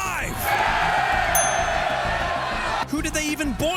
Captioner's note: Romans cheering